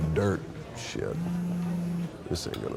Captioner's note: phone buzzes